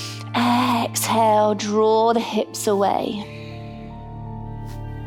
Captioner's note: inhales; exhales; calm music